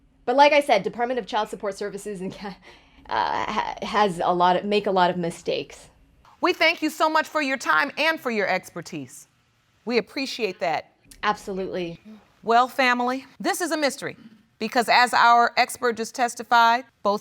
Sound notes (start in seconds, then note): 3.0 chuckles; 3.5 stutters